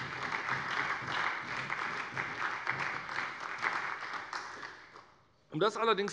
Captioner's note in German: Beifall bei der SPD